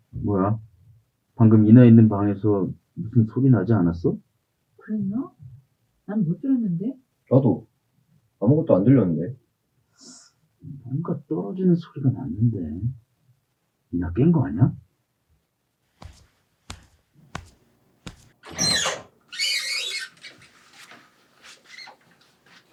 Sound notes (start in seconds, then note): 15.9 sound of footsteps; 18.4 sound of a creaking door opening